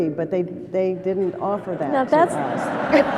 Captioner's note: laughter